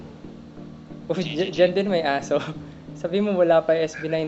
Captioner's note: resigned chuckle; laughs